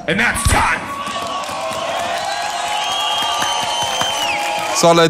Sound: crowd cheering

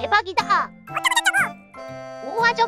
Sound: talking

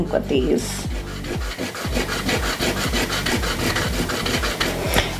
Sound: eraser rubbing

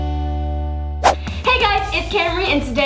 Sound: swooshing

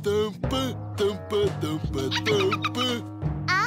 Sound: giggling

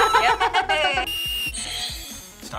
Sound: laughs; buzzer rings; whistling

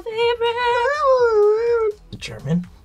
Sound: vocalizes

